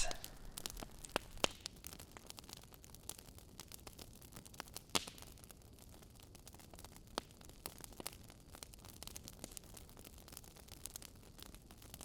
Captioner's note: burning wood burning sound